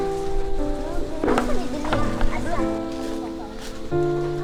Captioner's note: kids talking